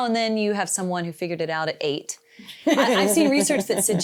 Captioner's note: laughing